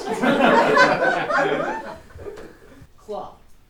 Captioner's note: audience laughing